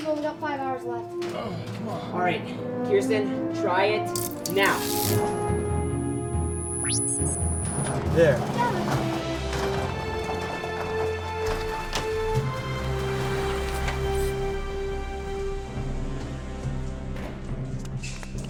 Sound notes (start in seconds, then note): 6.5 machine beeping